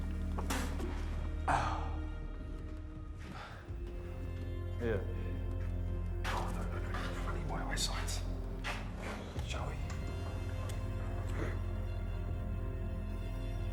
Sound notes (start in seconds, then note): 0.9 Igor spitting